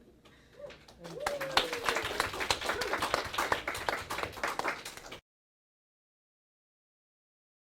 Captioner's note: applause